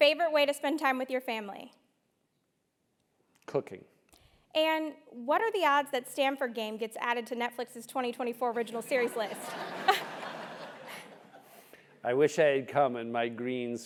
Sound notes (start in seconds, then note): 8.9 laugh